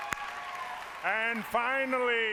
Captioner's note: applause